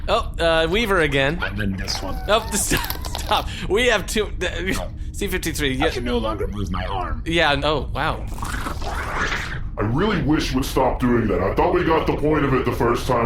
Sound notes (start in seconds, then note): 1.5 laughing